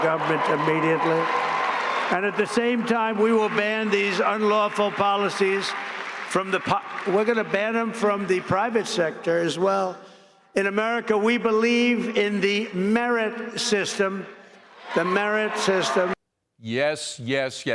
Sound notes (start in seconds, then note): 6.6 cheers and applause